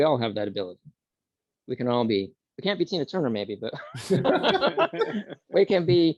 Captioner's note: laughs